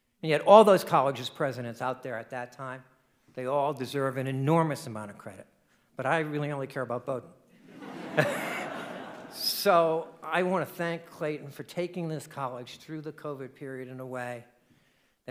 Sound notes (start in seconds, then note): 7.7 audience laughing